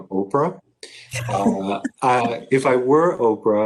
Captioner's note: chuckles